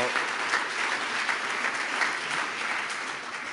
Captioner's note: applause